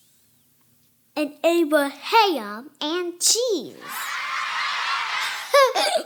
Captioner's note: children laughing